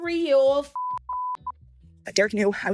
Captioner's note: beep